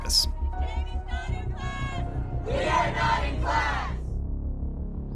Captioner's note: chanting